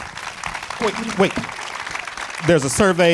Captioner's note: audience applauding